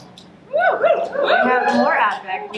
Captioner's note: audience cheering